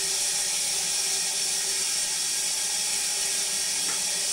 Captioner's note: saw whirring